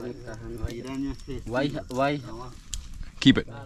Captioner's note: speaking in foreign language